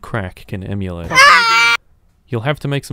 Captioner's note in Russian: К Р Э Команские вопли